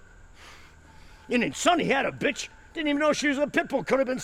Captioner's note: pants